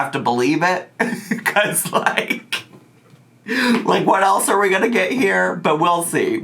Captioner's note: laughs